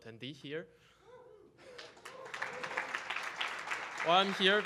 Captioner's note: audience applauding